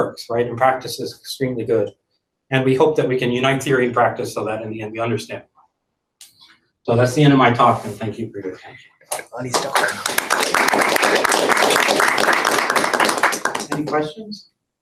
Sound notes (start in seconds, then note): 9.2 applause